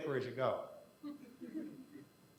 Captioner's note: quiet laughter